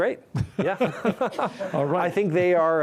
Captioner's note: laughing